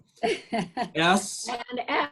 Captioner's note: laughs